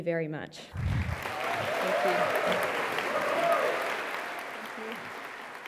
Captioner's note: cheering and applause